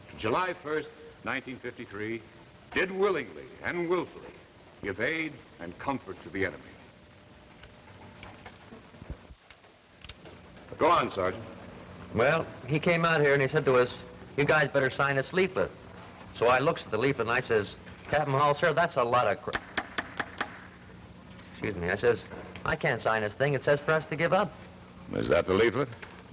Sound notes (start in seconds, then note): 19.5 gavel taps several times; 24.6 Moulton's voice